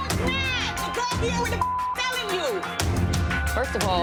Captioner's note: beep